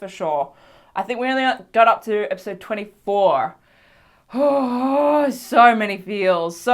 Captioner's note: gay sigh